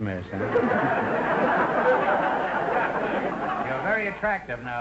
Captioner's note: audience laughter